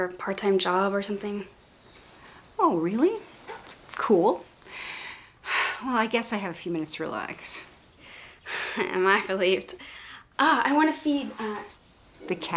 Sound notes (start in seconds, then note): 4.6 sighs